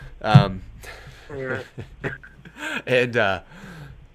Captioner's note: laughs